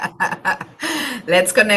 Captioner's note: laughs